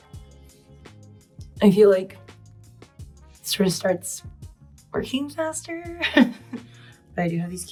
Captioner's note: chuckles